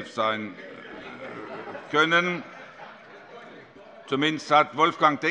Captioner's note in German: Zurufe von der SPD: Die Enkel! - Heiterkeit